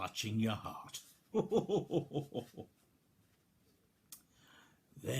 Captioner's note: chuckles merrily